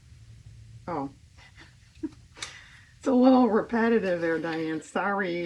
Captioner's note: laughs